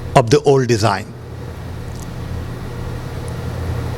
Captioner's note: none